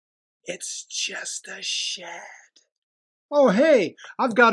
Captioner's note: whisper